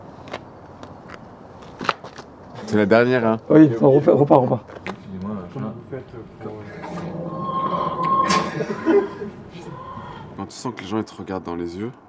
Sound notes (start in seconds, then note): 6.6 chicken noises; 8.2 laughs